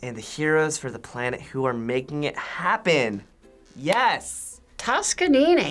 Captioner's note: claps